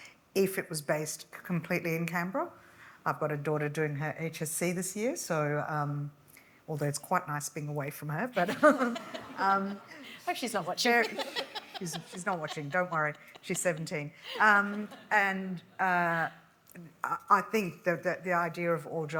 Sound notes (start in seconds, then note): 8.4 audience laughs; 8.5 laughs